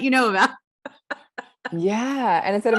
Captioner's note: laughs